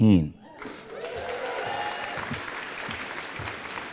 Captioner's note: applause